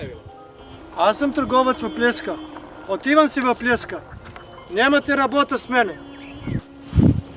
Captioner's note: in Bulgarian